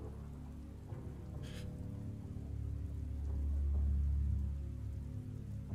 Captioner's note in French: Zhou inspire brusquement